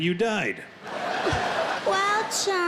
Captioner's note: crowd laughing